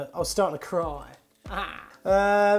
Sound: crying noise

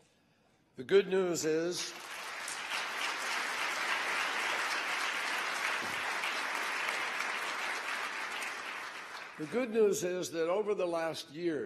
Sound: applause

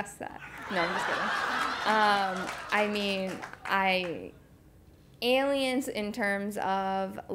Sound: laugh

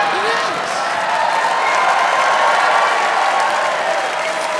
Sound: audience laughs; audience cheers

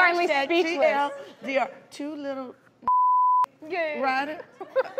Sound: beep

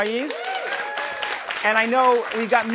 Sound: applause

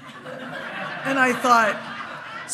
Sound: hearty laughing

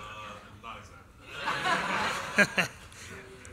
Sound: laughter

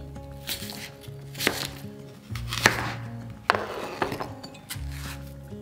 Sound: apple crunching; cutting board thudding; lighthearted music

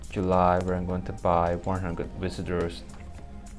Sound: clicks

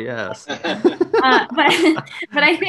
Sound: group laughing

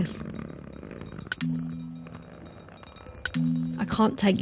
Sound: clicking and whirring

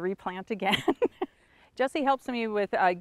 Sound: laughs

